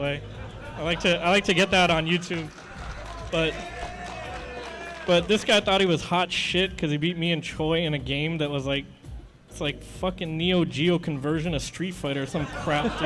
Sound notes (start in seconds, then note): 0.2 laughter in audience; 1.4 applause; 3.9 enthusiastic commotion